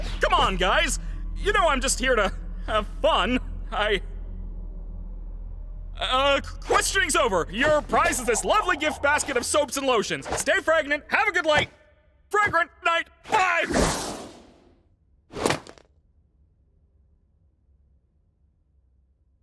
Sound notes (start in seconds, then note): 13.7 swoosh!; 15.4 basket thuds